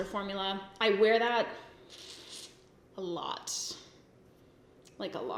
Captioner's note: sucks teeth